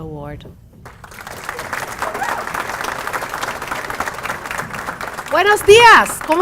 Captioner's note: applause